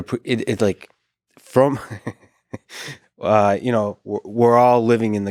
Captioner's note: laughs